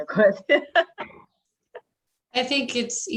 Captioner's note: laughs